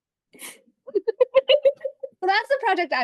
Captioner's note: group chuckles